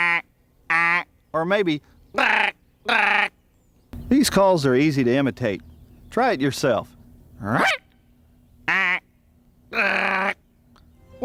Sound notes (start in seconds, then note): 9.7 all three heron calls in order